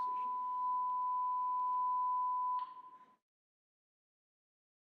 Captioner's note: high pitched tone